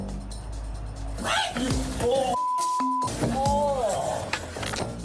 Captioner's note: screams